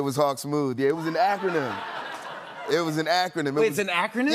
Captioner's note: laughter